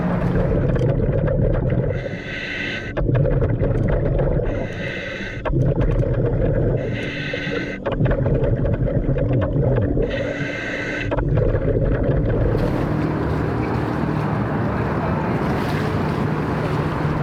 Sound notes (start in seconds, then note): 0.0 gentle music; 0.7 mouthpiece hissing; 12.4 traffic droning; 13.0 water lapping